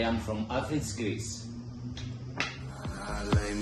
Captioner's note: single clack